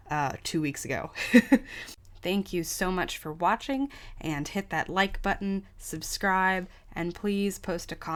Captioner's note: laughs